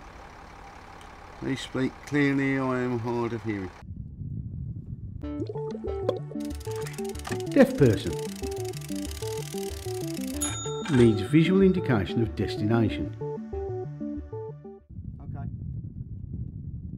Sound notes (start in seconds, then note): 5.3 inspiring music plays; 10.1 gauge dings